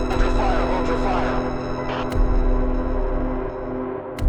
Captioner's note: officer On Radio; dramatic music